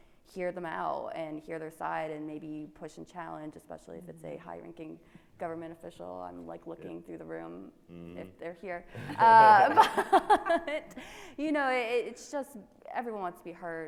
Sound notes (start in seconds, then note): 8.9 laughing